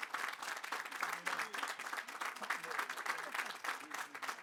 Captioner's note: applause